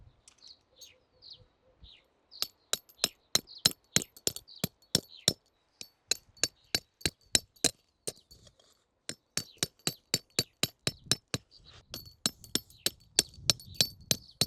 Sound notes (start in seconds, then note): 5.6 hammer sounds - hammering a tent peg ASMR